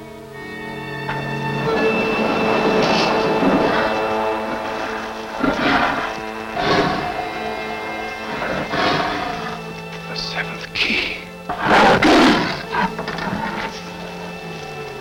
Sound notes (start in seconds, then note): 1.9 dramatic music; 3.9 Brutus growling; 12.0 Brutus growling